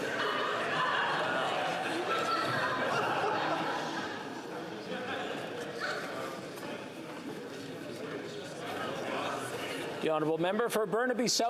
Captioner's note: chatter